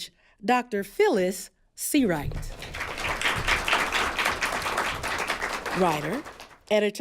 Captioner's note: applause